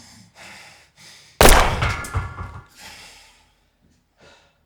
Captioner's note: gunshot booming